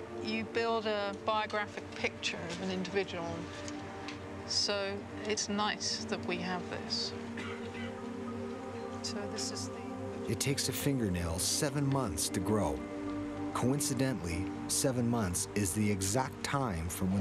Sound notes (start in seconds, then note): 10.4 voiceover